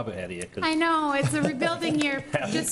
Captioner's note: laughs